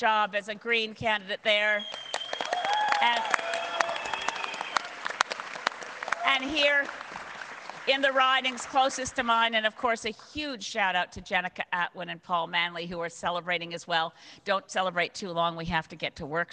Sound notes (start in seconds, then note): 4.1 cheers and applause